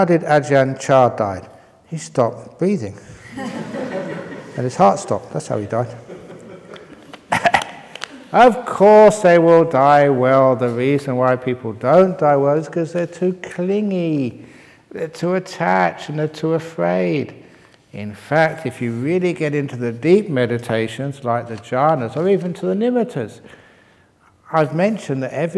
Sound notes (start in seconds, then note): 3.2 laughter; 5.7 chuckles